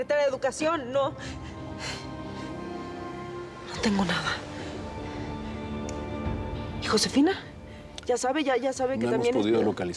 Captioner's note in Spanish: exhala